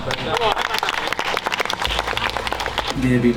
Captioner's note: claps